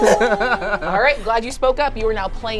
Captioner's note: laugh